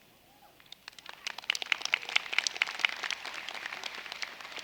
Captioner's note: applause